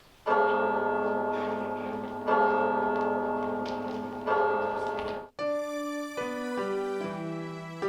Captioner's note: bell tolling